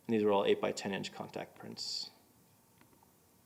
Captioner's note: none